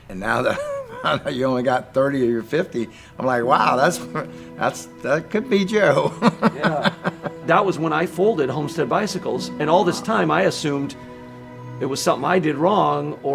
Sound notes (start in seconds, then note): 6.3 laughs